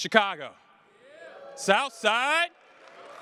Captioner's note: cheers